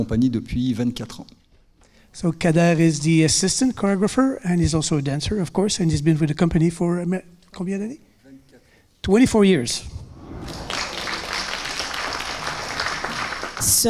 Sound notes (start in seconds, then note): 7.1 speaking in French; 10.3 audience applauding